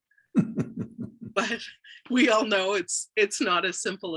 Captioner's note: laughing